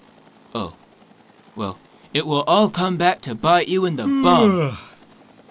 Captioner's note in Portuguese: Yawns